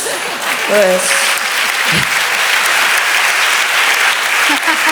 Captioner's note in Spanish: aplausos